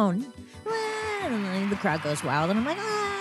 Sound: crowd cheering

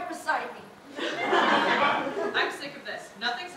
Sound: audience laughter

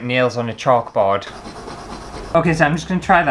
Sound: scratchy Sounds

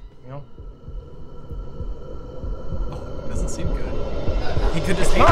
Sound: suspenseful sound whooshing

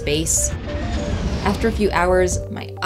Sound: plane engine roaring

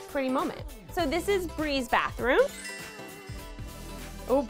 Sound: tinkly sound

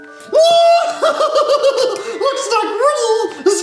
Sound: laughs

